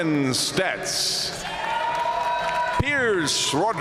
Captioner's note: audience cheering and applauding